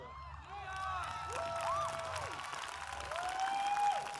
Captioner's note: cheers, applause